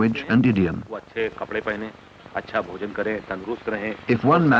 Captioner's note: non-English speech